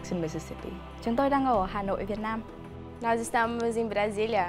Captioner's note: speaking foreign language